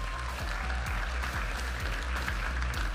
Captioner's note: audience applauding and cheering; upbeat music